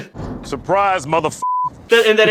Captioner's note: beeper